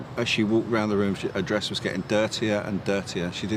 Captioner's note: none